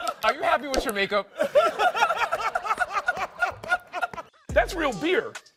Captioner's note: laughter